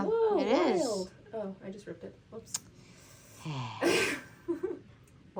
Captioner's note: sigh